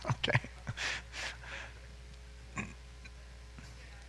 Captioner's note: chuckling